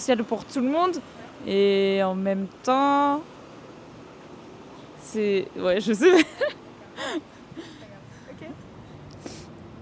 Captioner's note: laughs